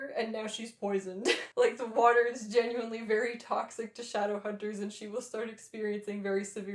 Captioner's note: laughter